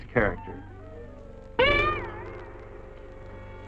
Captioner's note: gun dinging